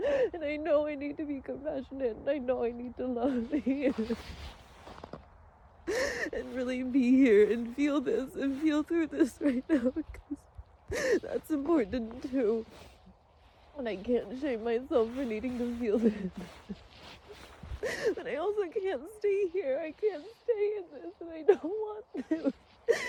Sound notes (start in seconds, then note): 4.3 coat rustles; 4.3 snow crunches underfoot; 4.3 sobs; 16.6 sobs quietly; 22.8 sobs through words